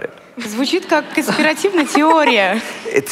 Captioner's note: foreign Language